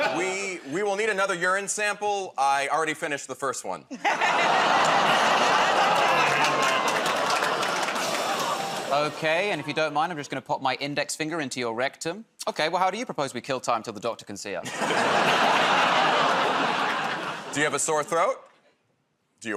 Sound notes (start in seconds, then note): 6.4 audience "Oh"s; 14.6 laughter